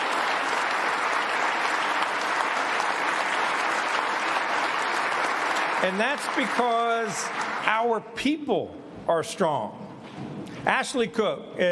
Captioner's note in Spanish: aplausos